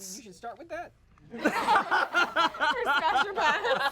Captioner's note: everyone laughs